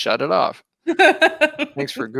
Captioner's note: laughing